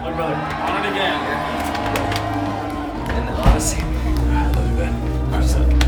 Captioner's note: group whoops; group talking indistinctly